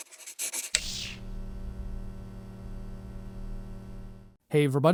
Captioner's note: electric sounds